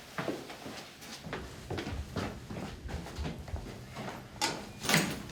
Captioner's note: footsteps